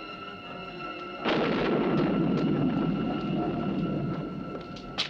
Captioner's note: thunder crashing